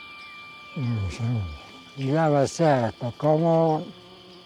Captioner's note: speaking Spanish